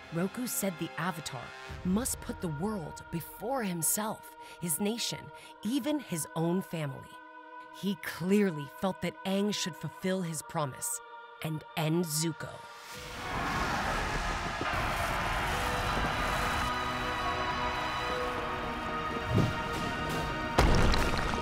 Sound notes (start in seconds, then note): 13.2 screaming; 20.8 fighting, rumbling